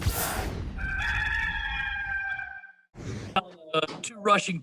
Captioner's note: cockerel sound